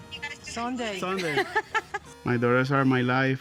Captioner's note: laughter